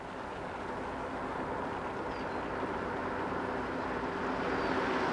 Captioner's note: car engine humming